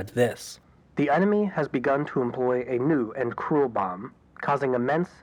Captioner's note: radio static effect